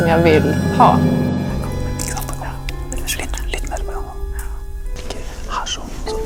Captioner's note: whispering